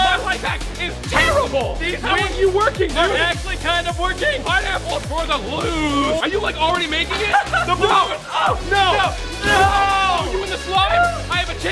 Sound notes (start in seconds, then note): 7.0 laughter